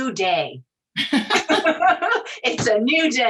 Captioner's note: laughing